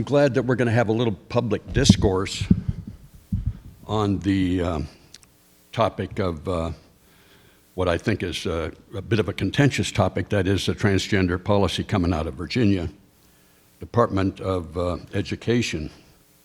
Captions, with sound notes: I'm glad that we're gonna have a little public discourse (microphone rattling) on the topic of what I think is a bit of a contentious topic, that is, the transgender policy coming out of Virginia Department of Education.